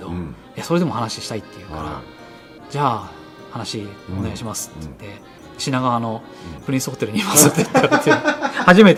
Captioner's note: laughs